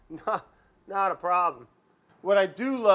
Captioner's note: laughs